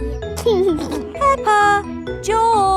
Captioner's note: giggling